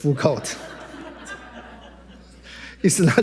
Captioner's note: attendees laughing